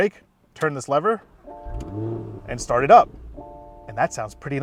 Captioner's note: engine revving